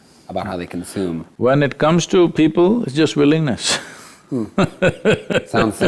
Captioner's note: laughs